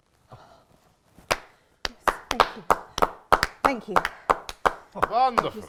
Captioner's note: clapping